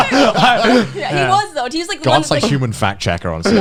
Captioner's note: laughing